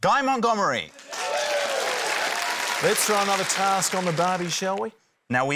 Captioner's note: cheering, applause